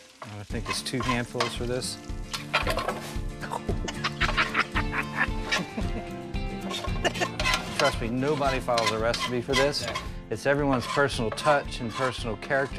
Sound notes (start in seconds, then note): 3.5 laughing